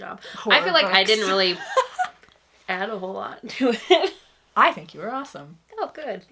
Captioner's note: laughs